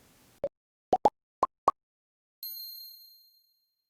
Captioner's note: pop sound